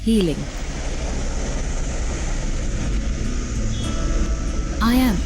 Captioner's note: car engine revving; moves into gentle music